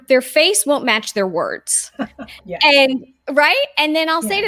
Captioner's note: chuckling